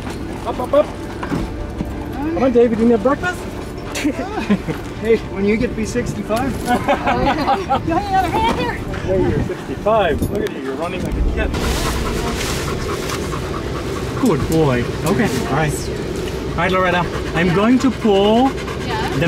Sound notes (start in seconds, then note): 3.9 laughter; 6.6 laughter; 11.4 panting